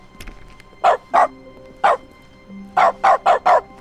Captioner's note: barking